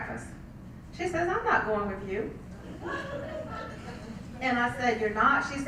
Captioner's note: laugh